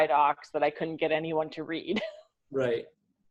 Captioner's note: laughs